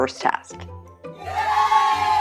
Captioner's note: applause